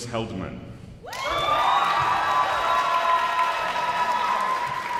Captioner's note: audience applauds